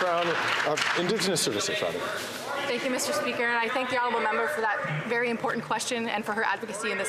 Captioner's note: some Applause